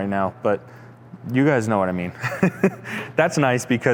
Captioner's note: chuckles